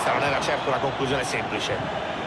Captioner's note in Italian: Applauso